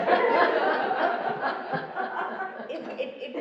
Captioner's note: laughing